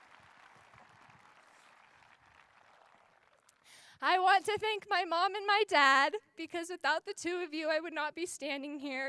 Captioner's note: cheers and applause